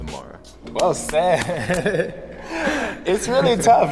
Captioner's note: both chuckling